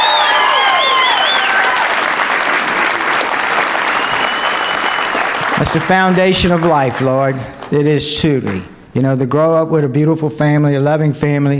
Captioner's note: applause